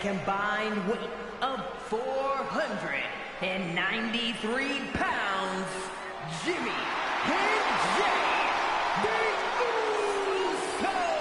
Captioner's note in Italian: Applauso